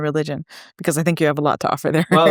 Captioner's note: laughs